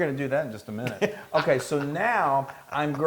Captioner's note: laugh